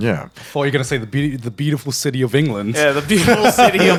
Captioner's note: laughing